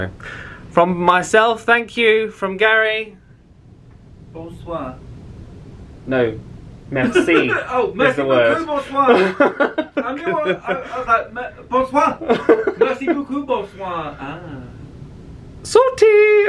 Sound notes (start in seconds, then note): 8.5 laughs; 12.1 laughing